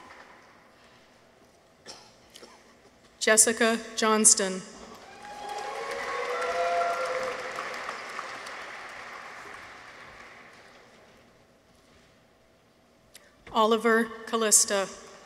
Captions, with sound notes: Jessica Johnston. -(people cheer) -(audience applauds) Oliver Kallista.